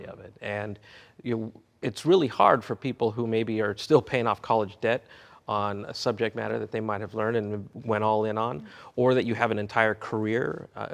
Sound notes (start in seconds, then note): none